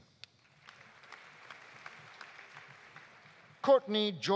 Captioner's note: audience applauding